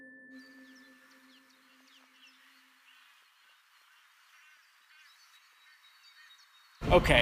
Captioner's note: birds chirping